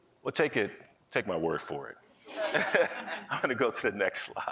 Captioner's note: laughing